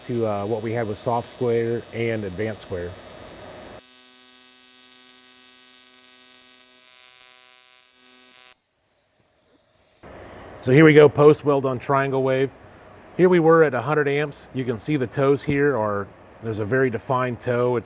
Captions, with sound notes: what we have with soft square and advanced square. (welder buzzing) So here we go, post-weld on triangle wave. Here we were at a hundred amps. You can see the toes here or there's a very defined toe.